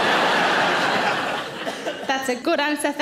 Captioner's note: audience laughs